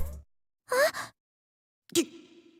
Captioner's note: gasp